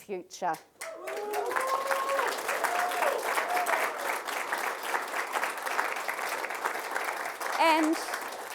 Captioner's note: applause, cheers